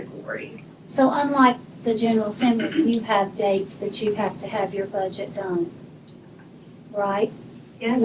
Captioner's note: clears throat